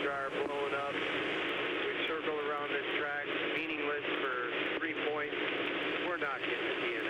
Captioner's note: radio